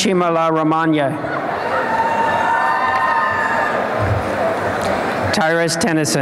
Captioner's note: applause and cheering